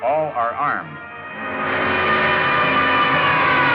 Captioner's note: sirens blaring